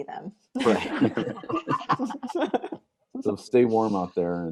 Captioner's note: everyone laughs